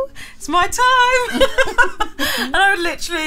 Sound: both laughing

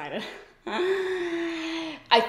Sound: inhales sharply

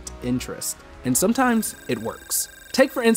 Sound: counter beeping

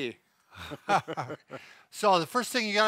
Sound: both laughing

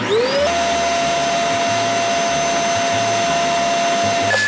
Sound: vacuum motor running

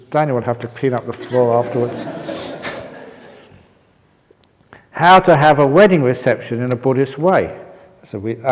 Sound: laughter

